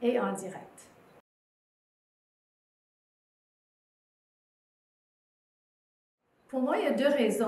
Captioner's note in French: silence